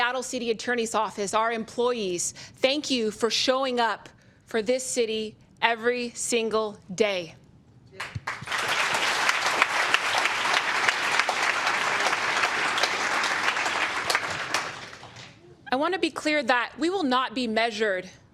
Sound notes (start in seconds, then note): 8.0 applause